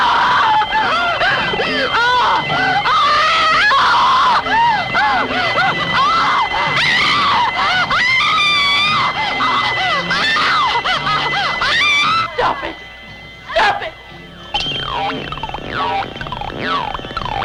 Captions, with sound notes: (ominous music) (screaming) - Stop it! Stop it! (buzzing)